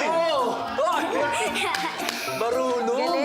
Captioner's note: giggles